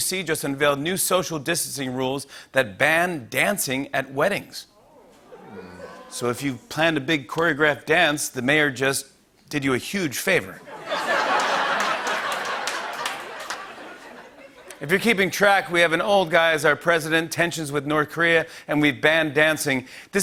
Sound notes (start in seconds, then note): 4.8 grumbling; 10.6 laughter and applause